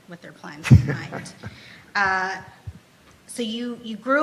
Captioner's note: laughs